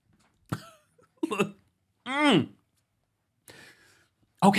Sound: chuckling

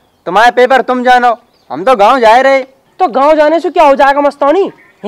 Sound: none

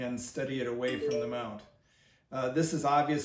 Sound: cell phone chime

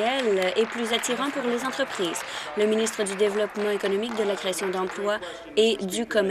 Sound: applause

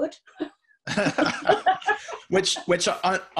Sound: laughing

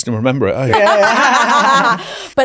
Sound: everyone laughs

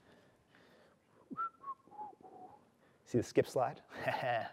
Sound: whistling; chuckles

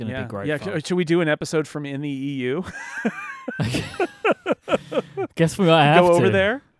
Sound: laughs

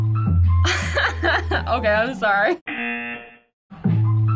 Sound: buzzer

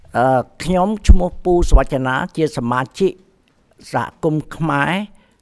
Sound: speaks in Khmer language

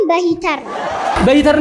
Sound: laughter

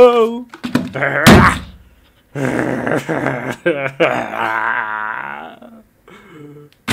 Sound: grunts; cries

